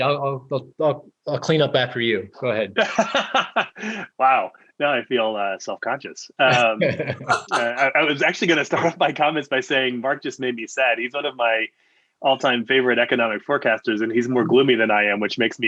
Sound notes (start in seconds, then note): 6.4 laughing; 6.4 laughs